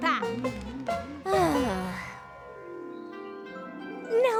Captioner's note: groans